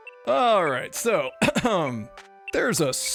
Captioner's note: clears throat